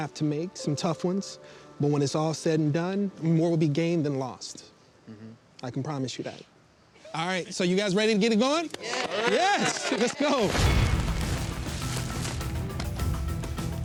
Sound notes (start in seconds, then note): 8.7 clapping; 10.6 dramatic music